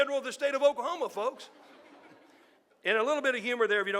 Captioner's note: audience laughing